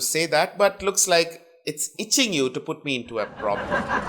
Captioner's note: laughter